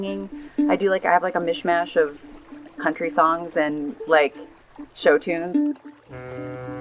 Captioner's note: boat horn